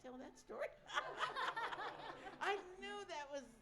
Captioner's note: laughter